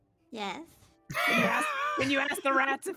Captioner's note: laughing